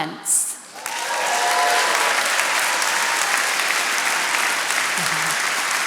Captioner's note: attendees cheering and applauding